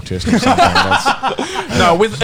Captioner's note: laughs